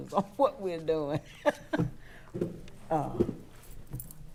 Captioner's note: laughs